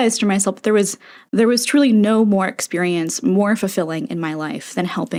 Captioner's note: inhale